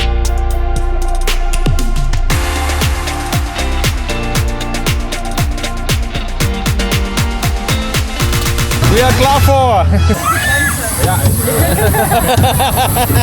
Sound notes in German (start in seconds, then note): 11.5 gelächter